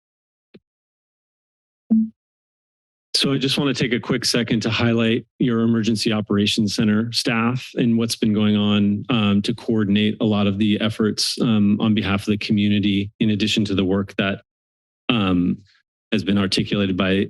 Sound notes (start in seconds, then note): 0.2 silence; 1.9 computer notification